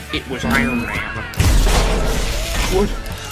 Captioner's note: extreme repulsor blast